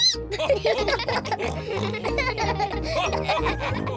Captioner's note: all giggle; squeaks